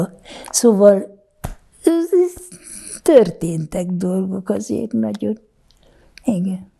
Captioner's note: laughing